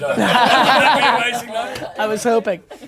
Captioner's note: laughing